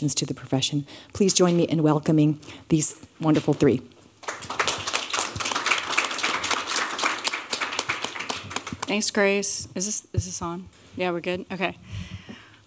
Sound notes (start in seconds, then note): 4.2 applause